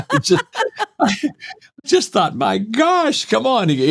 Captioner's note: laughing